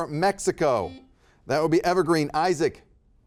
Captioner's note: buzzer beeping